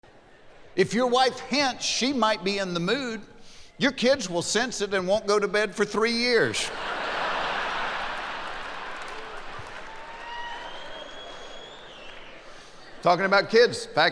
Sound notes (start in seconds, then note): 6.6 laughing; 10.3 whistling